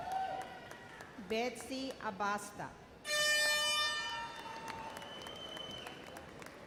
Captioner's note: bull horn sounds